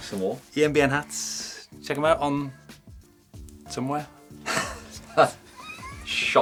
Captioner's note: laughs